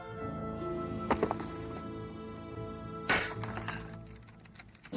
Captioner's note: mallet slamming; chains jingling